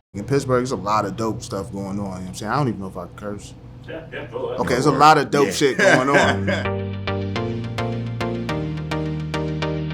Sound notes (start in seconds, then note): 4.6 laughing; 5.4 upbeat music